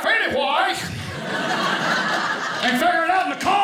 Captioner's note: audience laughing